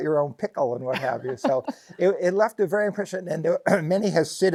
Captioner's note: laughs